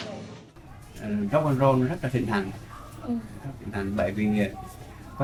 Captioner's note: speaking foreign language